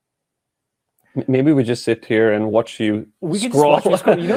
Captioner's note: laughs